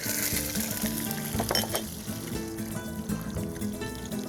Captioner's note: sizzling; spanish guitar music